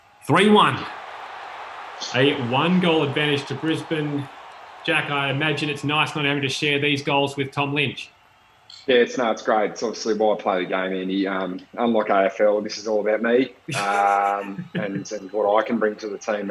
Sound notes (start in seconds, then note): 13.6 laughs